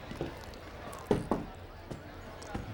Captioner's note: knocks